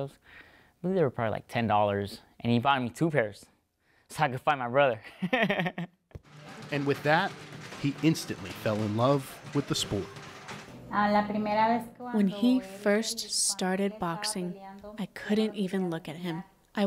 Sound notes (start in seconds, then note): 5.0 laughter; 11.9 through translator